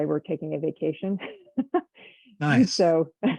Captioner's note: chuckles